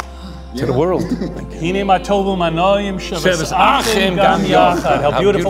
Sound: talking in foreign language

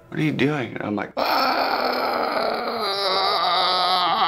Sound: starts screaming

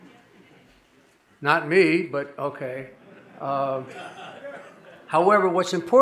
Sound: audience laughing

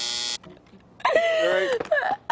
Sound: laughter

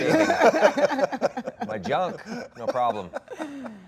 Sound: Gal and Dwayne laughing

